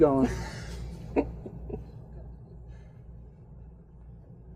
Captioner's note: laughing